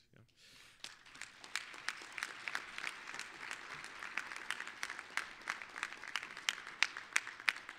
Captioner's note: applause